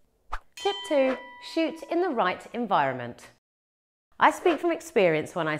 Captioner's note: bell rings